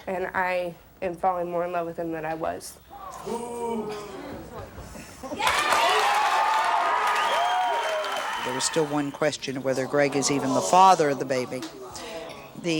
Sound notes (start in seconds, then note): 5.4 audience cheers